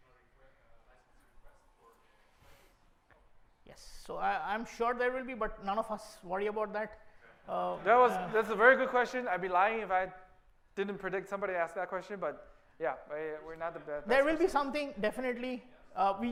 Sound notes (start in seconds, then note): 7.8 laughter